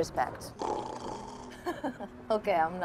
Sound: Tom "snoring"; Eloise laughing

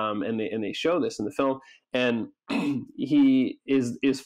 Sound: clears throat

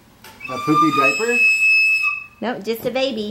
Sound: whistle blowing

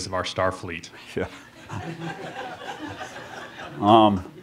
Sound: laughter

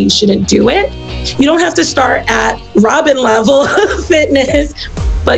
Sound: laughs

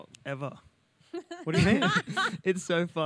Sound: laughs

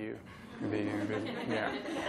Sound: laughter

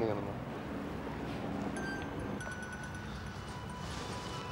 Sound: phone ringing

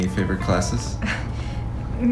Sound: chuckle

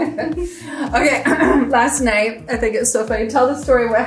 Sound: both laughing; clears throat

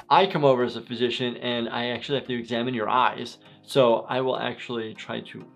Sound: none

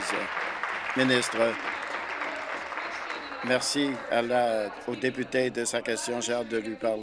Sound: applause

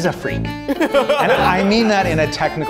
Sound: group laughing

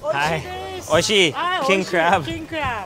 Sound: speaking in Japanese

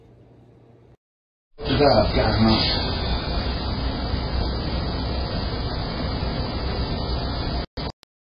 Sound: Ava stammers

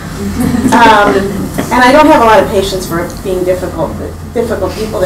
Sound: laughing

